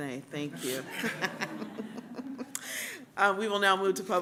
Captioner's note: laughter